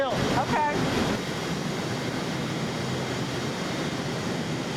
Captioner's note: machines roaring